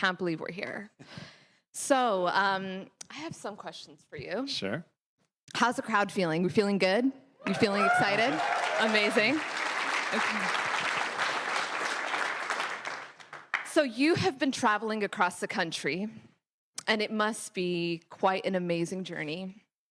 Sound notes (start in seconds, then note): 11.9 cheers; 13.3 applause